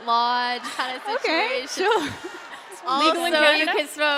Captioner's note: laughter; laughter Continues